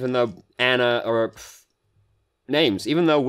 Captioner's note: pfft